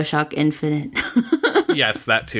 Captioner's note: laughs